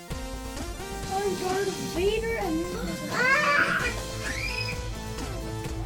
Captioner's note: kids talking